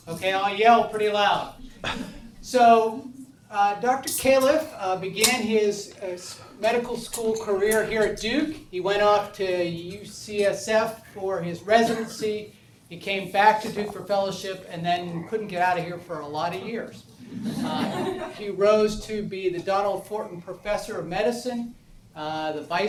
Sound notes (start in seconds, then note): 17.4 audience laughs